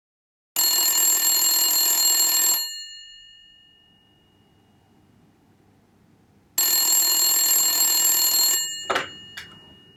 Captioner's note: telephone ringing